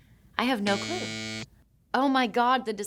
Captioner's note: graphic buzzing